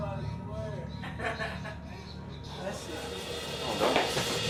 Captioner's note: chatter